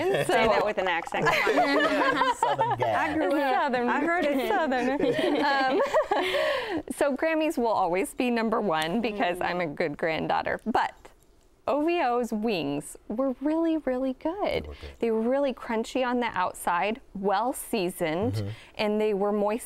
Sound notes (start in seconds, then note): 2.8 southern accent; 4.0 laughter; 6.5 normal voice